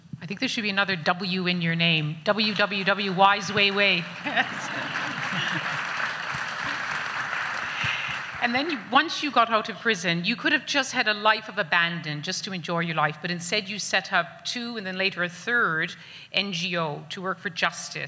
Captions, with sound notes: - I think there should be another W in your name. WWW Wise Wei Wei. (both laugh) (audience applauds) And, then once you got out of prison you could have just had a life of abandon, just to enjoy your life, but instead you set up two and then later a third NGO to work for justice